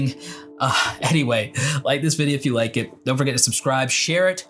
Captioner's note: chuckles